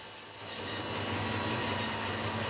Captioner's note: whirring